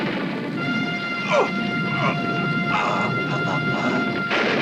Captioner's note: victims grunting